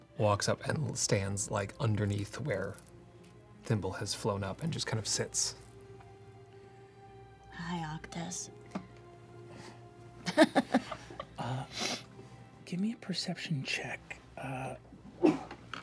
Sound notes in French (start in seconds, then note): 10.2 rire